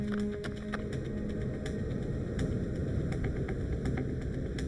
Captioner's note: wind blowing